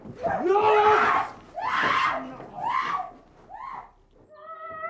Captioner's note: screaming